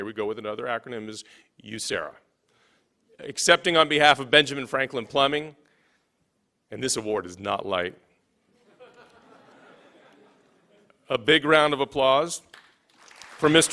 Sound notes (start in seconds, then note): 8.6 laughing